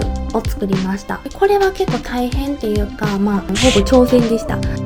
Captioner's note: laughs